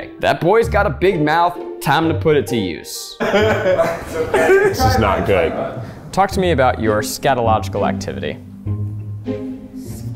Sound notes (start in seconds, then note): 3.2 laughing tiredly